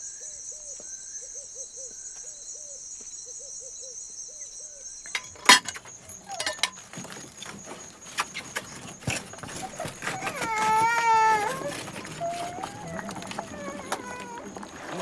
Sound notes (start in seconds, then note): 5.4 baby crying